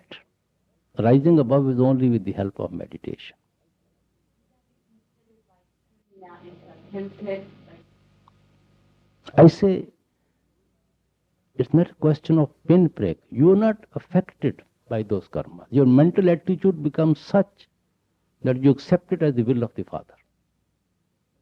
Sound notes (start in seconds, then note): 7.4 break in recording